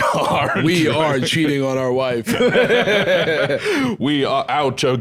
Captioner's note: both laugh